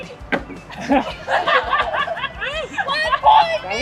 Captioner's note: laughs